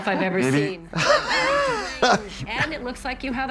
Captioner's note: Trixie guffaws